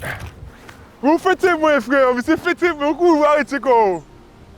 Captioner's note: in French Creole